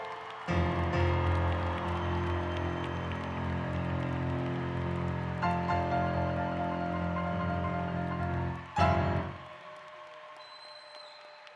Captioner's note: applause